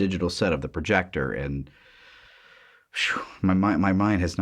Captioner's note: deep breath